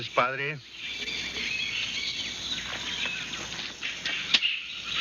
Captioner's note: birds chirping